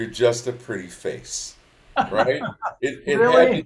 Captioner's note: laughs; participants laugh